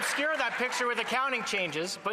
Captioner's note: some Applause